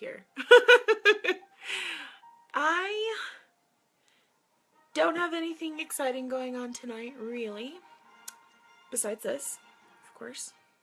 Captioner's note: laughs